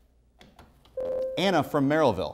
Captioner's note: buzzer